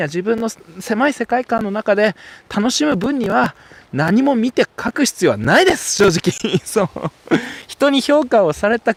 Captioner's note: laughs